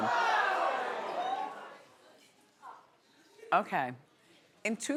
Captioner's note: audience gasping